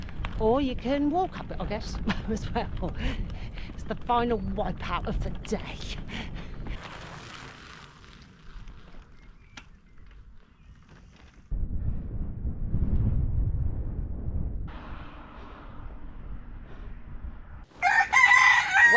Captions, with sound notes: or you can walk up it, I guess as well. It's the final wipeout of the day. [Tyres on gravel] [Wind] [Rooster Sound]